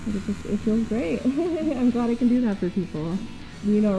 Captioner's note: laughing